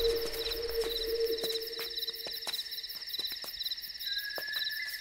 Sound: footsteps

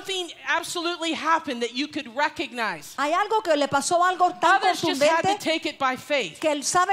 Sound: Spanish

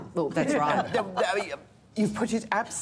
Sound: laughter

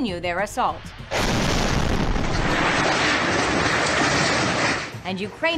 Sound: explosion

